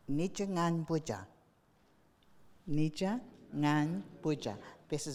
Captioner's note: speaking in foreign language